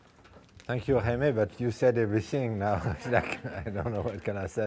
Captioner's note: laughs